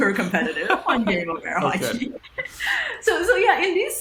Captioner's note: laughing